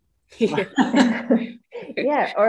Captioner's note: laughter